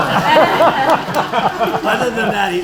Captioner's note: laughter